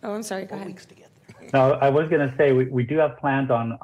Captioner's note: laughter